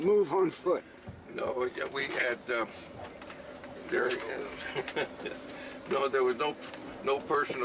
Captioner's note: laughs